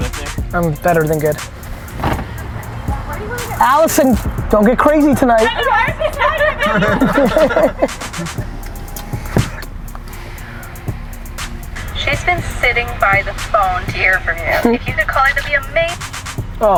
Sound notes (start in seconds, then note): 5.5 laughter